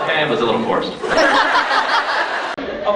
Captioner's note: crowd laughs